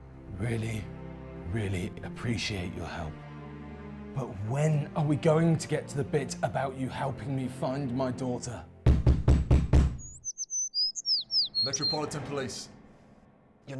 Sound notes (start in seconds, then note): 8.8 police knocking